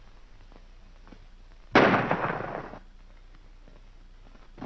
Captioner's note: gunshots